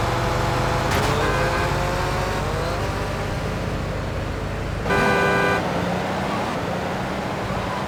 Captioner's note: car horn honking